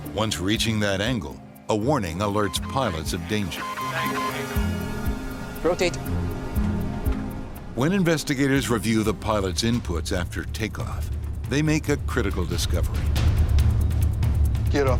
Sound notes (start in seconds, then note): 3.9 alarm beeping; 13.2 dramatic music